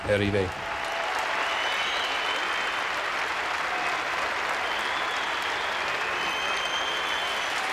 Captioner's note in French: applaudissements et acclamations